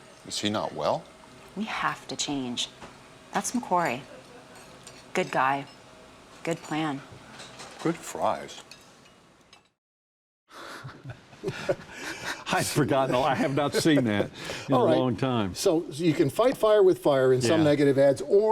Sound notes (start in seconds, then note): 10.6 both laugh